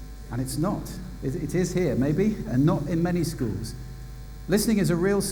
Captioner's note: none